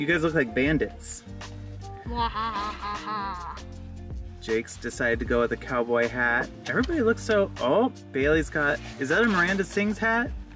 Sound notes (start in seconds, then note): 2.0 mischievous laugh